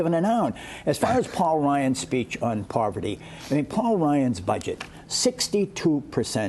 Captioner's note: laughter